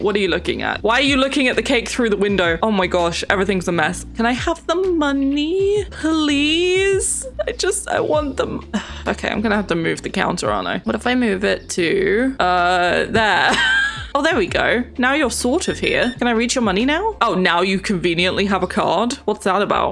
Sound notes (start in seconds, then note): 8.6 sighs; 12.5 laughs